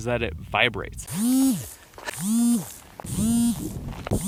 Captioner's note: buzzing